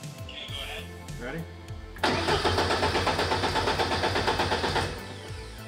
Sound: engine sputtering

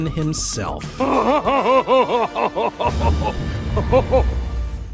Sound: laughing maniacally

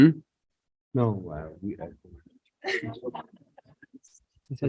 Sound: group chattering

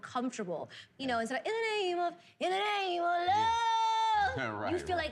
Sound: imitates voice

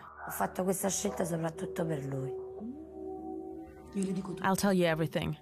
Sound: speaking in Italian

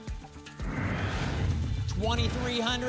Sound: whoosh

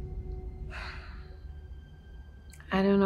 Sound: ominous music; Diane sighing

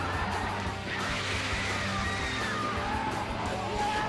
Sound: cheering

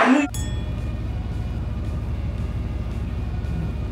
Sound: cellphone dings

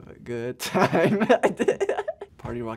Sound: laughs

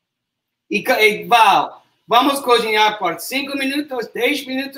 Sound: speaks portuguese

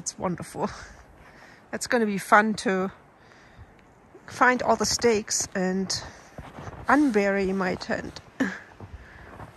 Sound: laughs

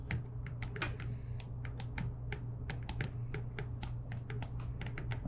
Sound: pens clicking

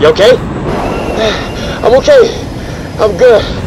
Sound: breathes heavily

